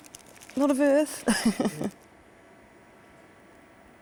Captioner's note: laughing